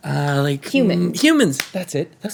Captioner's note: groans